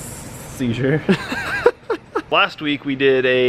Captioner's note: laughs